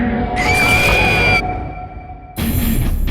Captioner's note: Chuck E. Cheese screams; dramatic metal music